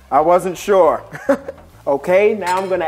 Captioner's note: laughing